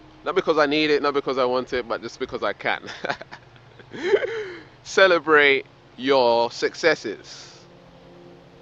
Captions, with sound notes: Not because I need it, not because I wanted but just because I can. (laughs) Celebrate your successes.